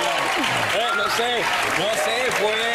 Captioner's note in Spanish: aplausos